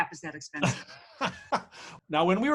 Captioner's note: laughing